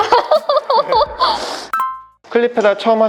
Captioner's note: laughter